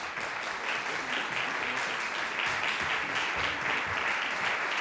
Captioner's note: audience applauding